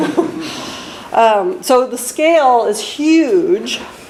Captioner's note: laughs